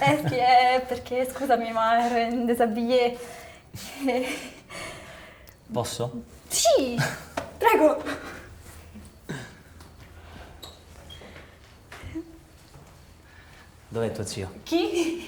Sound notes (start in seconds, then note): 3.6 nervous laughter